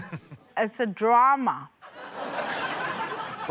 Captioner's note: laughter